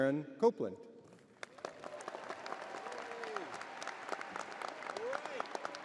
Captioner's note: crowd applauding